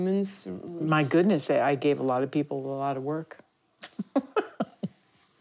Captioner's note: laughs